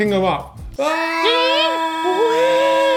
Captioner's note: whistling